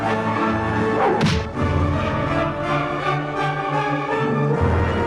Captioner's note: sword smacks